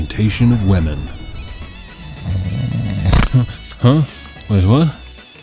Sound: snoring

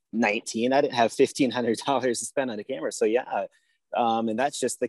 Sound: chuckles

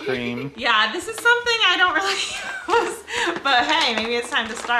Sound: laughing

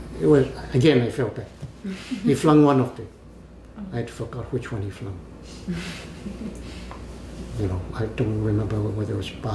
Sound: laughs

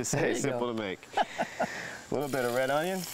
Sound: chuckles

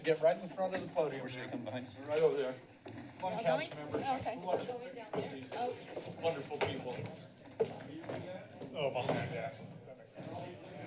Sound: background conversations

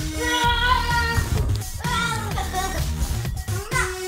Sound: starts laughing

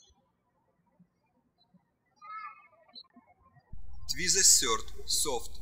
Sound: birds chirping

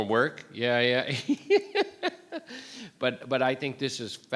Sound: chuckles

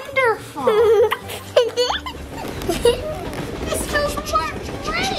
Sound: laughing

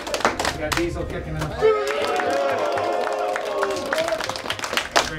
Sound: applause

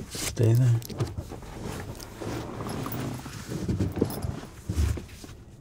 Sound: pants brushing against seat

